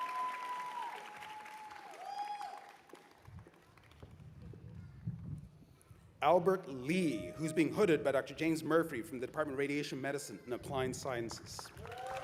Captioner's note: cheers and applause